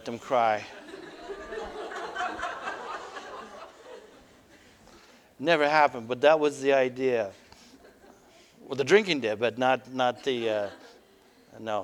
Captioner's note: audience: Laughter